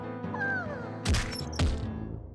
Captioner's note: troubling music; animal murmuring; stretcher bouncing